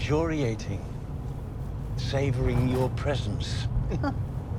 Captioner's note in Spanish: Robyn se burla